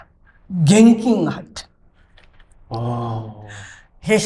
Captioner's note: laughs